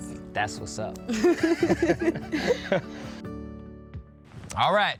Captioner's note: laugh